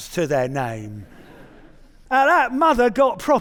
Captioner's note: audience chuckling